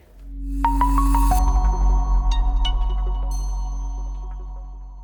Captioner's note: bright chiming